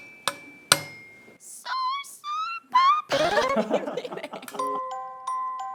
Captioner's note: laugh out loud